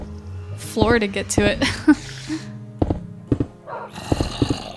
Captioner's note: laughs